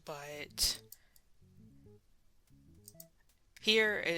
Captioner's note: mouse Click; silence then Mouse Click